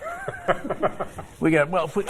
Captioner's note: laughter